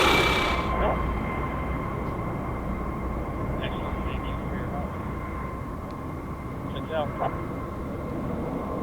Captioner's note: helicopter sounds get quiet, radio sounds continue